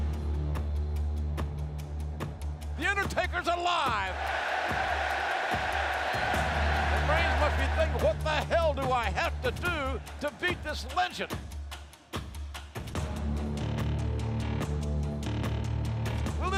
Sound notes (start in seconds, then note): 0.0 ominous music; 3.4 crowd cheering; 12.9 ominous music continues